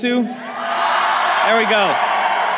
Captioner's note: crowd cheering